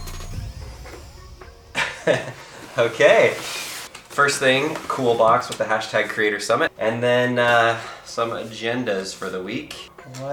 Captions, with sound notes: (giggles) okay. First thing cool box with the hashtag Creator Summit and then some agendas for the week.